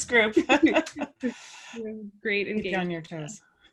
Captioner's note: laugh